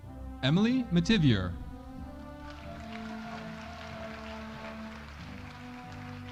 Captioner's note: audience applauding